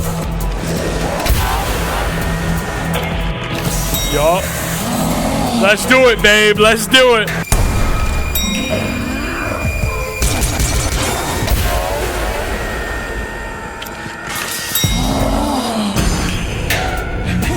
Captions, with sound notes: (the Duchess gasps) Yup. Let's do it, babe. Let's do it. (gun firing)